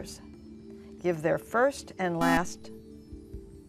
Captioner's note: buzzer